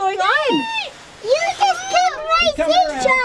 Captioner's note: wailing